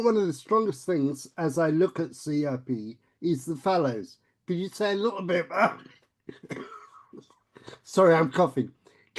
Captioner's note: coughs